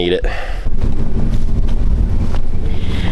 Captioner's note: wind Blowing